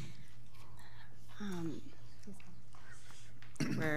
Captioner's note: whispering